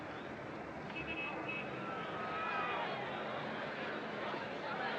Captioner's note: crowd Gasping, Shouting